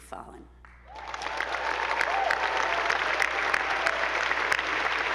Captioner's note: attendees applauding